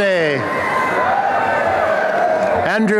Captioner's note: applause and cheering